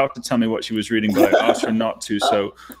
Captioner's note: laughing